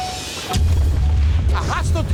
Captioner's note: car door dinging